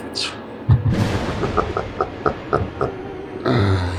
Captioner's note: evil laugh